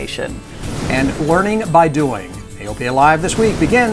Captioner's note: voiceover